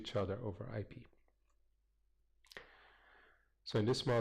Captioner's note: pause